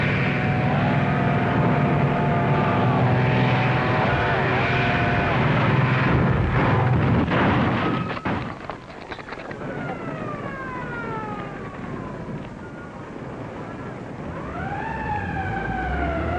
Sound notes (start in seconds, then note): 6.0 crashing; 9.3 ambulance siren